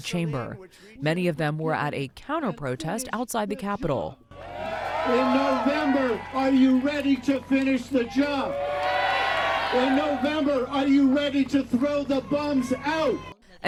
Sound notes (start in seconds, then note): 9.7 cheering